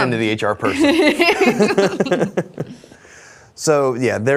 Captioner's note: all laugh